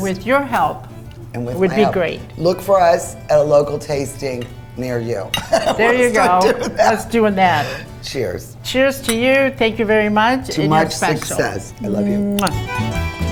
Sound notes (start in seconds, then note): 5.4 laughing; 13.0 acoustic music